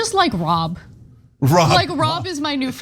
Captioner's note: laugh